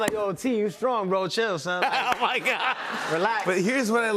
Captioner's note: laughs